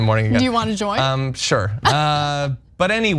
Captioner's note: laugh